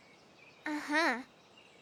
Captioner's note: laughing